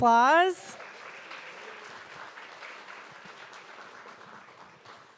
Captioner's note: audience applauding